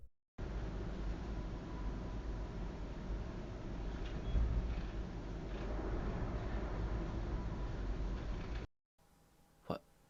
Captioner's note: wind softly blows